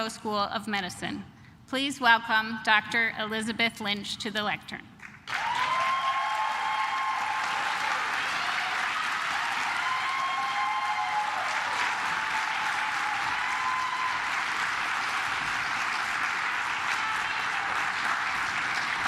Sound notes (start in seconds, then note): 5.5 cheers; 5.5 claps